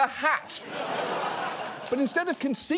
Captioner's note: studio audience laughs